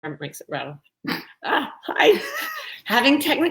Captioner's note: giggling